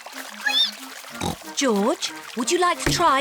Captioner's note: squeaks